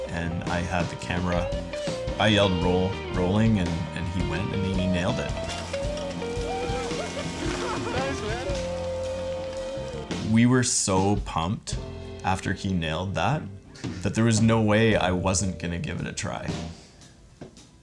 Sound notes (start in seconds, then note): 6.2 congratulatory yelling